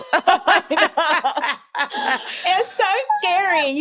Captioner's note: laughter